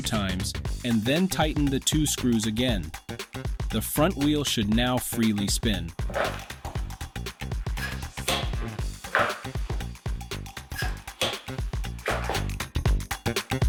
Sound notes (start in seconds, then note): 8.1 brake Sound